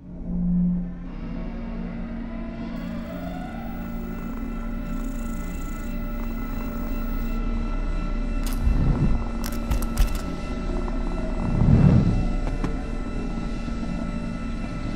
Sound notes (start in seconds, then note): 0.1 eerie music; 4.7 cat purring